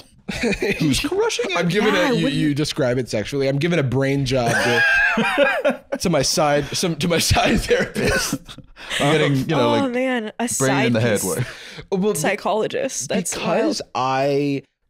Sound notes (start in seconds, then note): 4.4 laughing